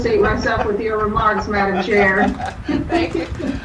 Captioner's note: laughing